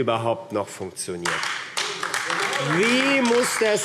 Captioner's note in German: Beifall AfD